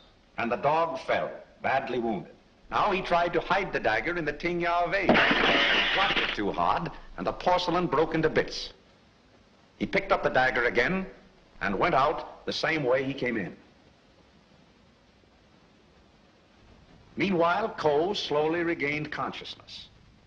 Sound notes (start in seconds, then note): 5.0 porcelain breaking